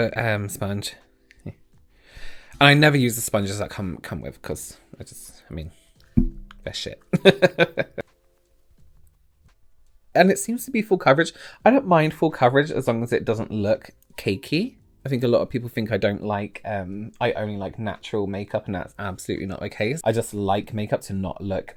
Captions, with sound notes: sponge. I never use the sponges that come, come with, because I just, I mean they're Sh*t. [Laughter] And it seems to be full coverage. I don't mind full coverage, as long as it doesn't look cakey. I think a lot of people think I don't like, I only like natural makeup, and that's absolutely not the case, I just like makeup to not look